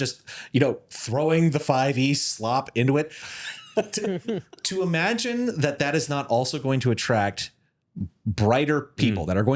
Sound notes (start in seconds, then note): 3.3 laughing